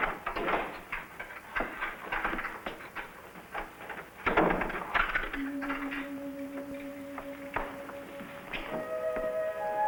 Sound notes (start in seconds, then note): 2.2 lock clicking; 5.3 gentle music